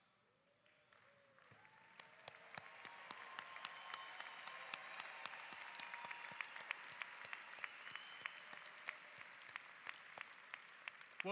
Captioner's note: applause